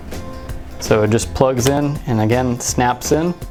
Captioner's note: snaps